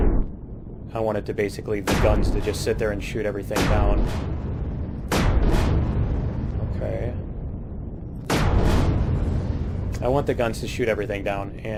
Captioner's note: explosion